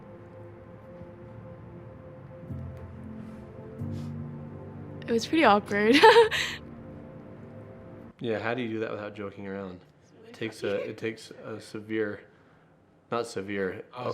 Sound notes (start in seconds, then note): 3.1 romantic music; 6.0 laughing